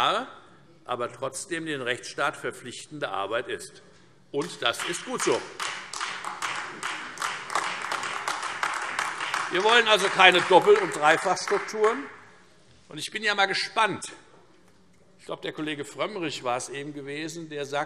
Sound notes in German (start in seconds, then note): 6.5 Beifall Freie Demokraten und AfD